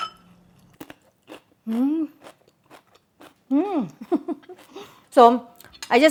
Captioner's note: crunching; laughs